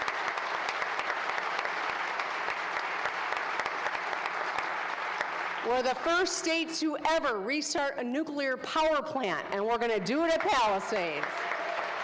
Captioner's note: applause